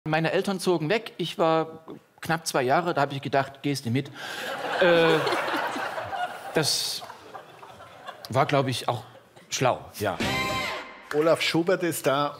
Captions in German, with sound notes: Meine Eltern zogen weg. Ich war knapp zwei Jahre, da habe ich gedacht, gehste mit. *Lachen* Das war, glaube ich, auch schlau. Olaf Schubert ist da.